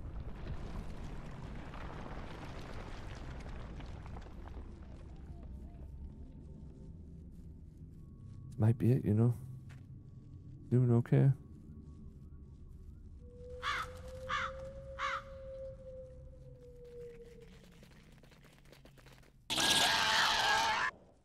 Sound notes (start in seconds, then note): 0.0 eerie music; 14.8 cawing; 15.3 screaming